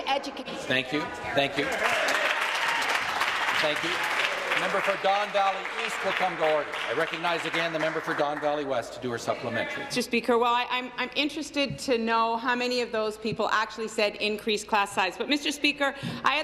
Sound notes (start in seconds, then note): 4.7 applause